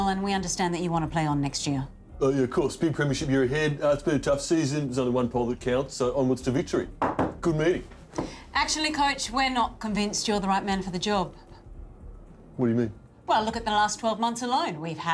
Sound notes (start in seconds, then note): 6.9 knocks